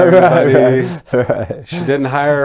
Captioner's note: laughing